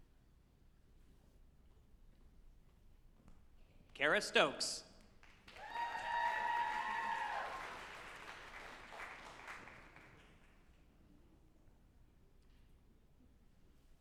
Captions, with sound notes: Cara Stokes, (group applauding and cheering)